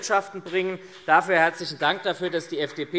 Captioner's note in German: Vereinzelter Beifall SPD